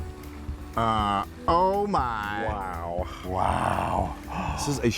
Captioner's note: both exclaim